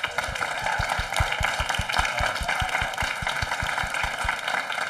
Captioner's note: audience applauding